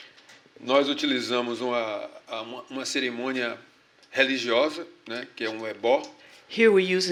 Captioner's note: speaking portuguese